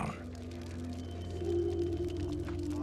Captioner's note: fire crackling